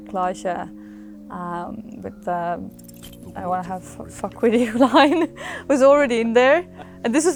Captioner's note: laughs